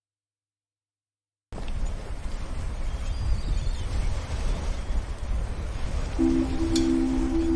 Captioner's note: sound of waves